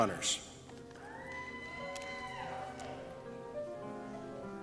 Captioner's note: cheers